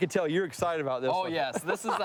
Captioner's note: laughs